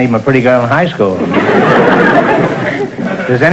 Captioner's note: audience laughter